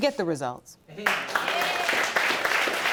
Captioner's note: audience applauding